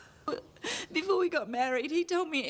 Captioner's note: Trina sobbing